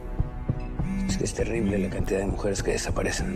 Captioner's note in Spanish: Vibra el celular